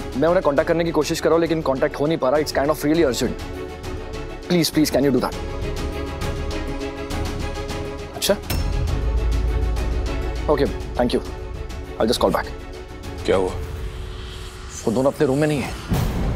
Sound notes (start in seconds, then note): none